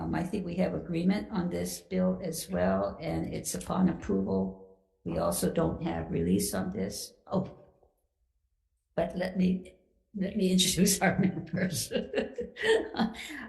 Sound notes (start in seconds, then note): 11.0 laughs